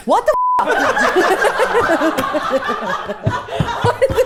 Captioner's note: everyone laughing